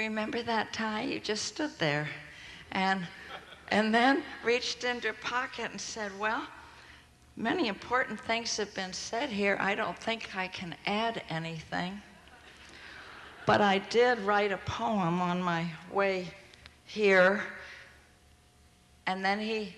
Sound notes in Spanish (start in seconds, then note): 12.9 Risas